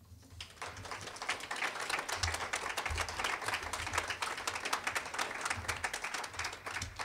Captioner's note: applause